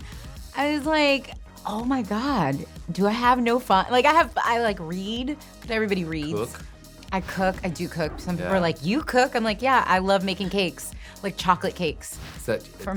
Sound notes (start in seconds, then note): none